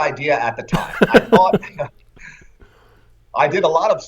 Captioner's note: laughter